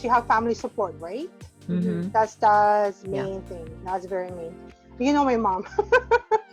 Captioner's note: laughs